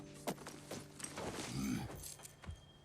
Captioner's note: grunt